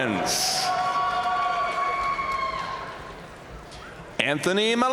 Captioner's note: audience cheering and applauding